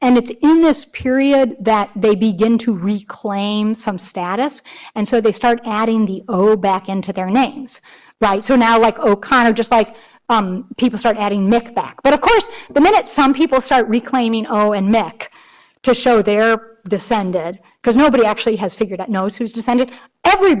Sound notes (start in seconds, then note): none